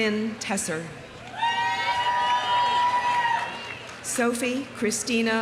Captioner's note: audience cheering; audience applauding